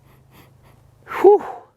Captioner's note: sniffs